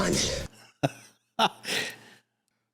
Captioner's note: laughing